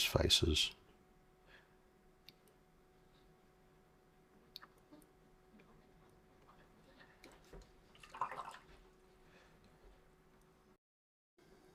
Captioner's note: silence